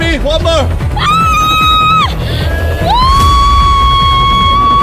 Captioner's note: screaming